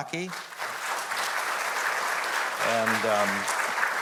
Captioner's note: audience applauding